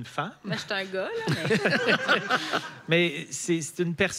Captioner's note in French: rires